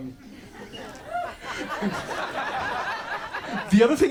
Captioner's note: audience laughs